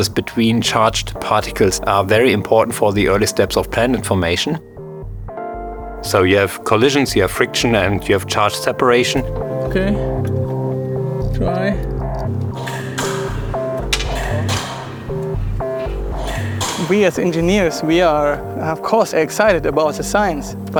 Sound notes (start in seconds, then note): 12.6 machine clacks; 13.5 experimental music continues